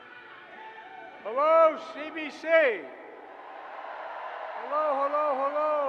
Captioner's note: applause